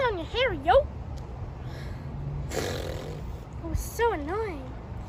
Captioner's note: she raspberries with her tongue